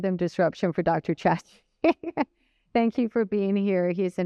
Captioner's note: laughter